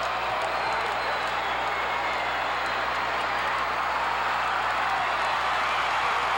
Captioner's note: audience cheering and clapping